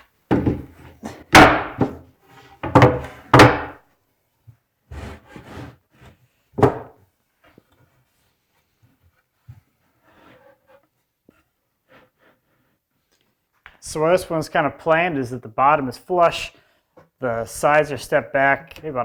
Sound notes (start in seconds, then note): 2.6 boards thud